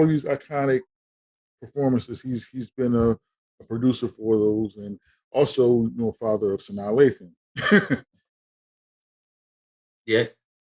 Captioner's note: laughing